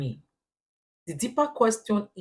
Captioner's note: paause